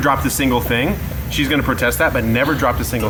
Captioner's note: laughing